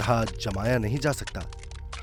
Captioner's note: cracking